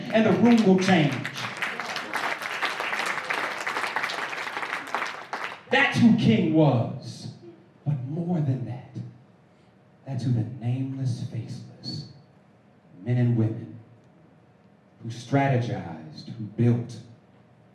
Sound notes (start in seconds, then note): 2.0 applause